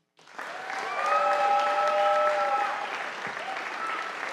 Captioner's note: audience applauding